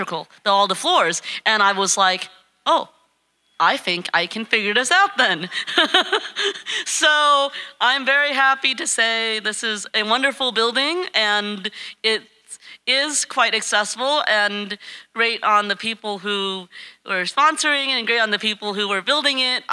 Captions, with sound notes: all the floors and I was like, "Oh, I think I can figure this out then." (laughing) So I'm very happy to say this is a wonderful building and it is quite accessible and great on the people who are sponsoring it and great on the people who are building it.